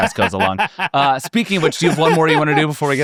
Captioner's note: laughing